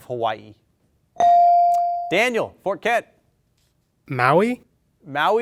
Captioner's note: bell dings